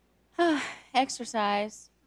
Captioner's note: sighs